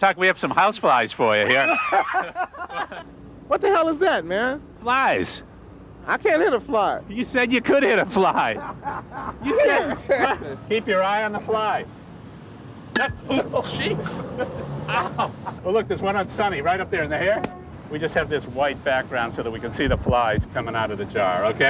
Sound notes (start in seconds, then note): 1.4 laughing; 1.5 screaming; 8.3 laughing